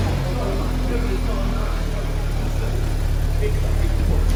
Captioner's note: engine rumbling